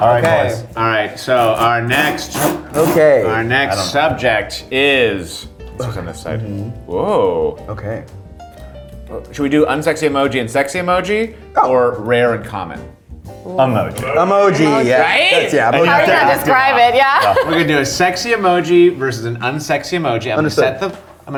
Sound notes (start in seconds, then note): 15.8 laughs